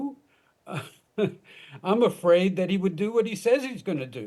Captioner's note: chuckles